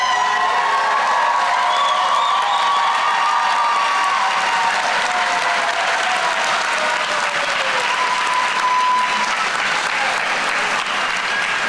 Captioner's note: applause